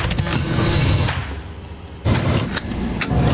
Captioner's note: engine revving